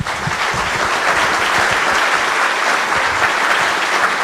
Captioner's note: audience applause